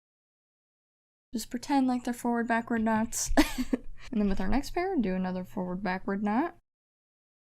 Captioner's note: laughs